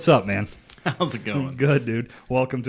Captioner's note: chuckles